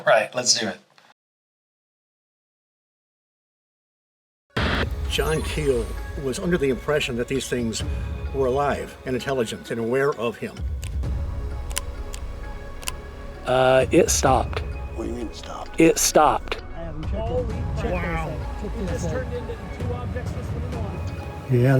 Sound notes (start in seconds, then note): 11.5 flashlight clicking